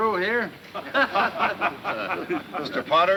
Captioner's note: men laughing